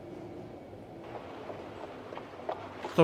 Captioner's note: horses hooves